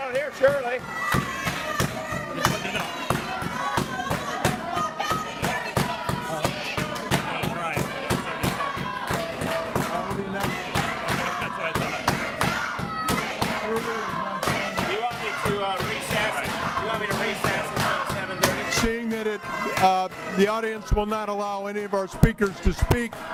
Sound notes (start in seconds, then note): 7.7 audience chanting